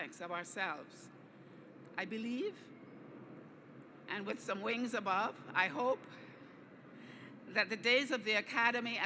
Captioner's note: airplane overhead